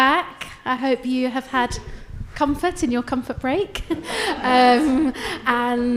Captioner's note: chuckles